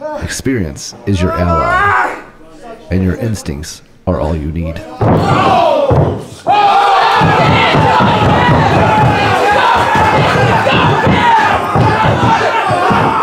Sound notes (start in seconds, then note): 5.0 audience cheering